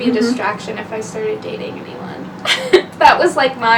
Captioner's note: laughs